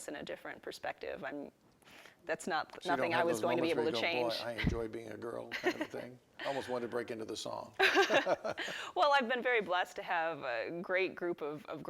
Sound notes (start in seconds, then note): 7.8 laughing